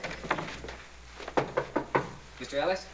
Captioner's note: knock on door